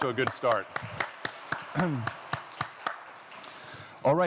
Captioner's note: applause